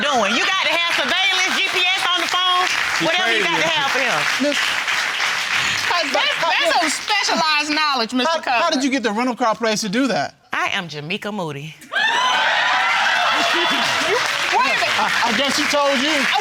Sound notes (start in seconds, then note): 11.9 audience clamoring and applauding